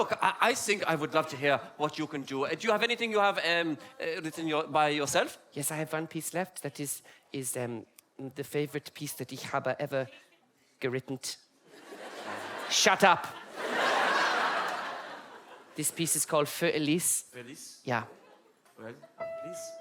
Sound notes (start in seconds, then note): 11.7 audience laugh; 14.3 audience laughs harde